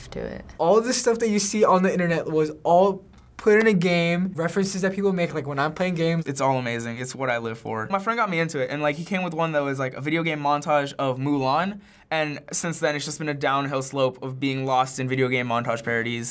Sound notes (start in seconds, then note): none